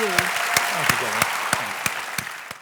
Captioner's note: applause